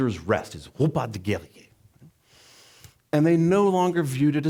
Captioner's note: foreign language